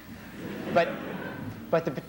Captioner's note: laughter